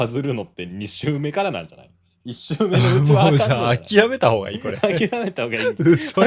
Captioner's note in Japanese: 笑い